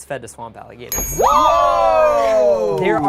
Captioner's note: bell dings